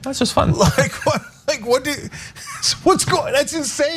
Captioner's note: laugh